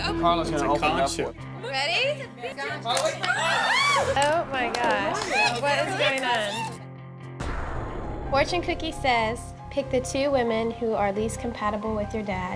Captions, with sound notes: Karla's gonna open it up for us. - Ready? (cookie snaps) (women screaming) - Oh my gosh, what is going on? Fortune Cookie says, "Pick the two women "who are least compatible with your dad